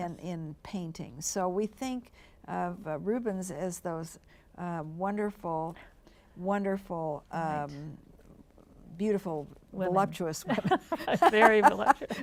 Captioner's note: laughs